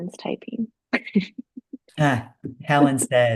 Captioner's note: laughing